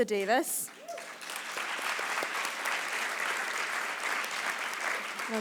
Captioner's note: audience appleause